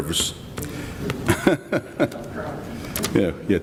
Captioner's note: he laughs